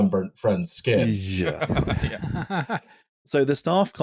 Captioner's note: laughs